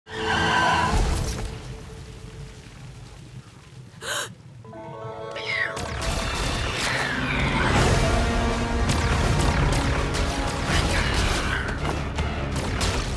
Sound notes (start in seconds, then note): 0.0 tires screeching; 4.0 gasps; 5.5 whines